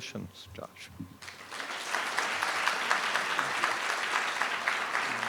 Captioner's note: audience applauding